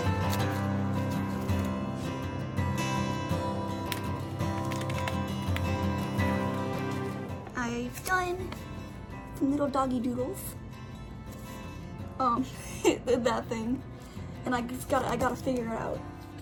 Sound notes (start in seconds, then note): 12.2 laughs